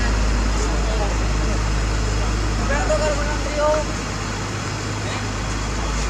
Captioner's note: heavy rumble